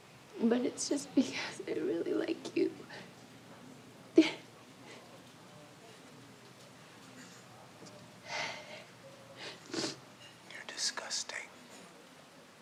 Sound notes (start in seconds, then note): 4.2 Betsy laughs; 9.4 Betsy sniffling